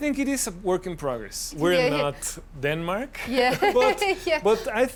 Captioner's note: laughs